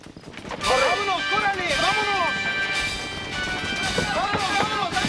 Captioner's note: speaking Spanish